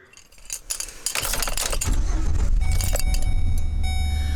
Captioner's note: engine starting